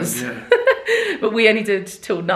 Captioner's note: laughs